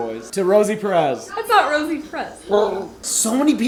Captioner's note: gargles in response